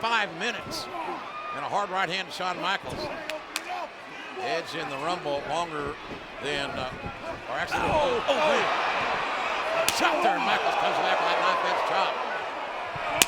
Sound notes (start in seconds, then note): 9.8 hands thudding